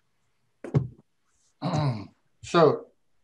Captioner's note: clears throat